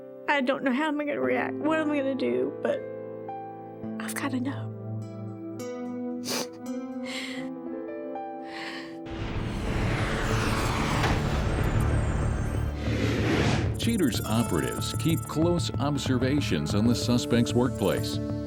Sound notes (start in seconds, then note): 7.1 sobbing